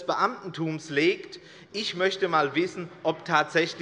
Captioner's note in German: Zurufe von der SPD und der LINKEN